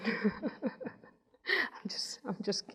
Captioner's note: laughs